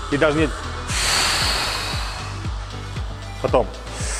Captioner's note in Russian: Выдох